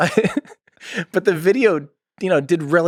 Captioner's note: Tim laughs